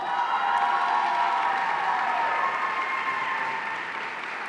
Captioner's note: audience cheering